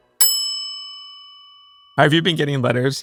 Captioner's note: bell dings